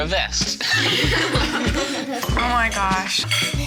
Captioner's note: laughter